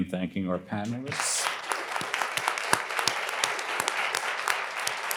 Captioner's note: attendees applauding